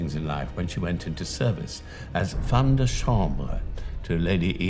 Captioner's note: speaking foreign language